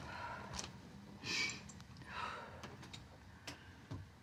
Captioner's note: Mama exhaling